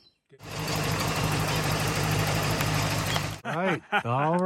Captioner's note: car engine roaring; laughs loudly